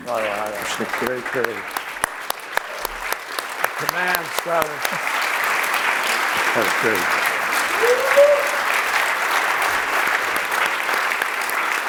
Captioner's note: applause